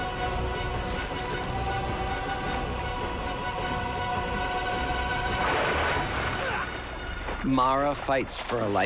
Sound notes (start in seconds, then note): 6.1 groans